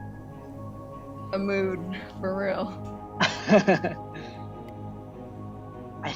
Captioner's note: chuckles